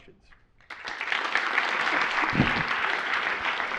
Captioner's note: applause